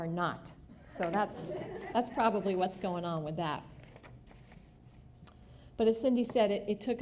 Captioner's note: laughter